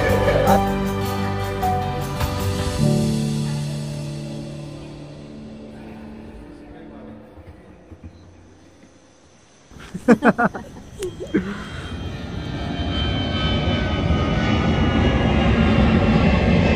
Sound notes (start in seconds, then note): 9.7 aarohi chaitanya laughing